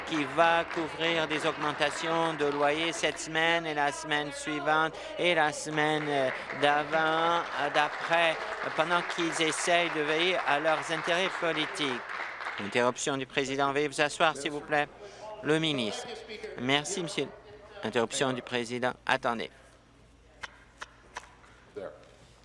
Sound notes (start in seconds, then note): 9.8 applause